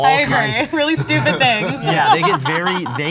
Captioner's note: laughing